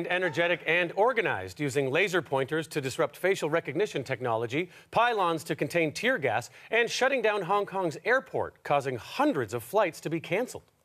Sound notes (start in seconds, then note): none